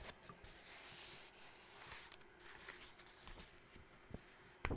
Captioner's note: flipping through paper pages